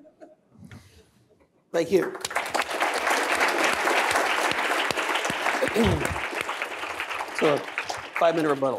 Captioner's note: applause